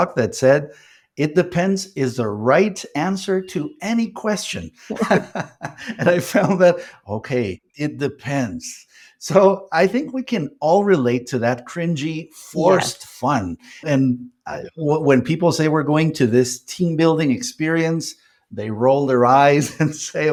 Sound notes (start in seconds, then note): 4.9 laughs